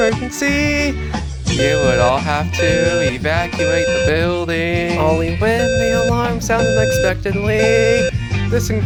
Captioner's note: fire Alarm sounding in Code-3 520 Hz square wave tone; fire Alarm sounding in Code-3 520 Hz square wave tone